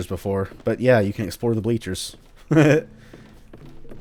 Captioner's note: chuckles